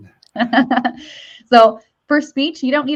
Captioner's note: laughs